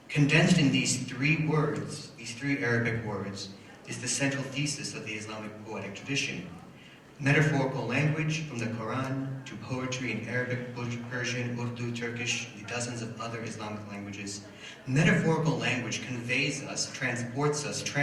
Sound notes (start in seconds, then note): none